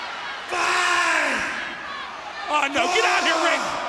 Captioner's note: crowd chatter